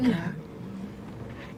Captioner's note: gasps